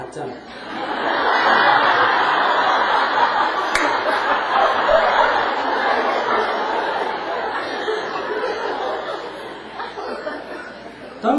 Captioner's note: audience Laughter